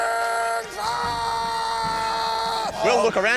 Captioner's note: screams